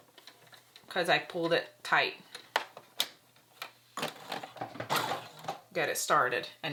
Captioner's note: sewing machine whirs